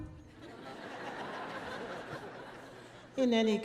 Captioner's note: audience laughing